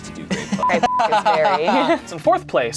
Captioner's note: laughs; beep